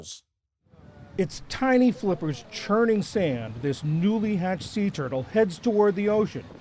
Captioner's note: voice-over